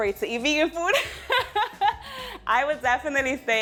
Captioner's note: laughing